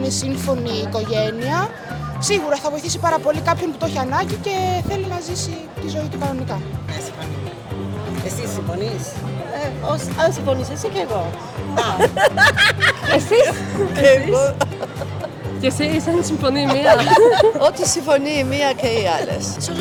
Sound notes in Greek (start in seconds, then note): 15.2 Γέλια